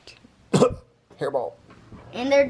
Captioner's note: man coughs